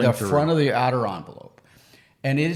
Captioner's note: none